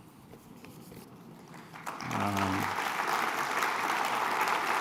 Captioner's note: applause